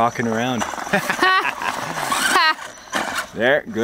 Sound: both laugh

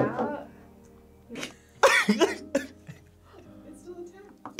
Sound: laughs

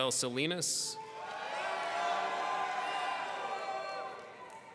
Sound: people cheering

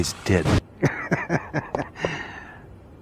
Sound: chuckling

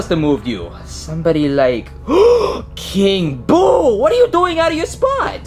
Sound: gasps

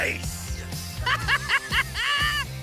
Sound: laughs

